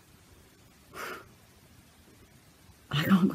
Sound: exhales

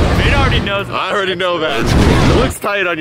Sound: explosion sound; exploding

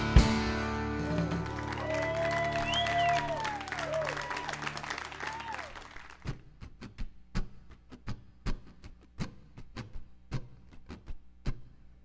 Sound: applause

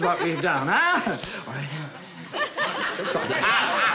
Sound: whispering

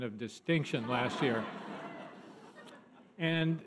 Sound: audience laughter

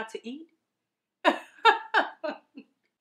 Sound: Wish laughing

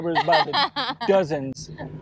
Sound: laughing

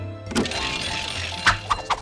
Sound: bell ringing

